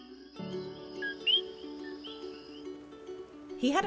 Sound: coquí song

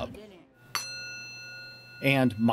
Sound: metal dings

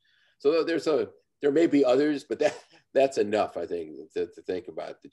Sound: laughs

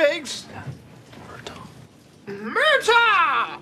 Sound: whispering

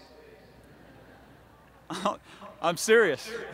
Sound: laughter

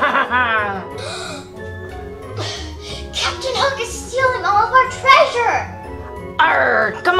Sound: gasps

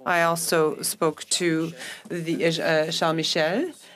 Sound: speaking French

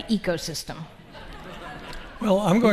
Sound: audience laughing

